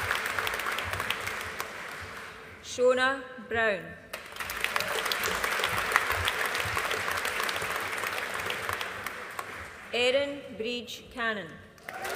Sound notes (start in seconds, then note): 4.1 audience applauding